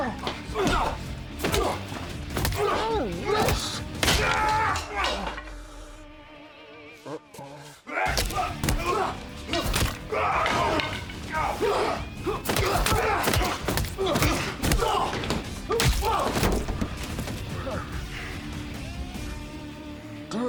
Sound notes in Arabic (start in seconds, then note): 4.0 يضرب، يصرخ; 7.8 قتال، صراخ